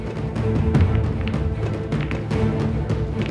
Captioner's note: pool balls colliding